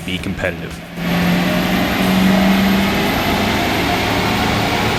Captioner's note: truck engine